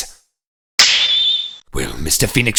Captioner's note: snap!